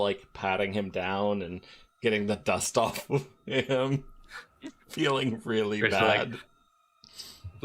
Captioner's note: laughter